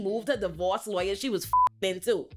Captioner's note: beep